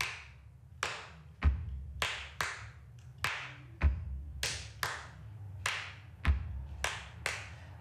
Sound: clapping and rhythmic stomping

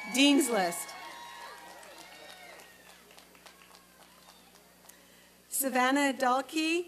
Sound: applause and cheering

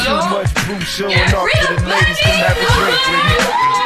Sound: screaming

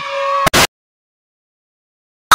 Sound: static starts then stops

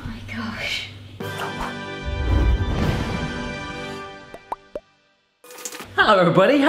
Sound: bubbles popping; exciting music

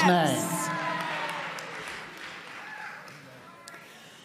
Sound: audience clapping

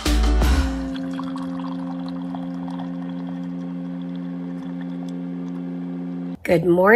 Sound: coffee dripping

